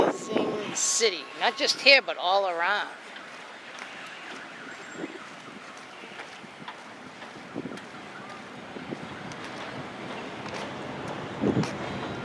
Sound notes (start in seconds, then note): 0.0 wind